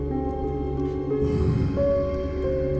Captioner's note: growls